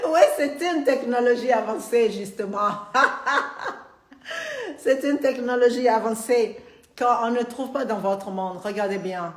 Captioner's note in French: Rire